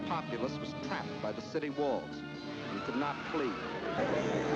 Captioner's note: crowd screaming